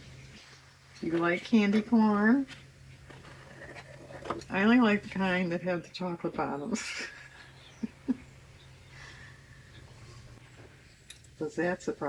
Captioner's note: laughs